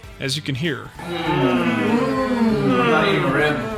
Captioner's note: moaning